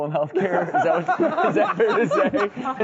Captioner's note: all laughing